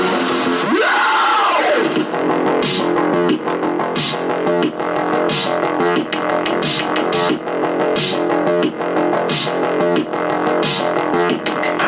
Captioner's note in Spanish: grito